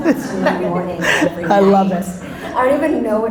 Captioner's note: laughs